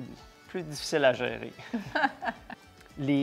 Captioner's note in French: rires